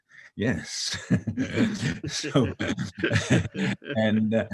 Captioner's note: laughing